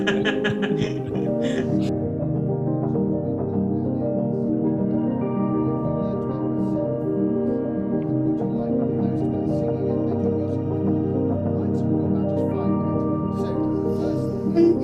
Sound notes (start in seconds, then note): 0.0 laughing; 0.0 background voices